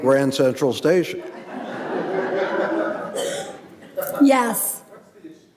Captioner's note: audience laughing